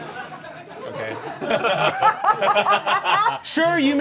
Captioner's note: all laughing